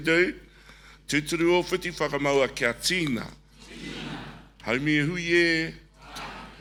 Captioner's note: call and response in foreign language